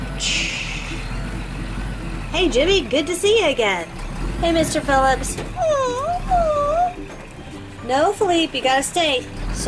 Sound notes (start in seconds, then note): 4.2 bus idling; 5.5 dog whining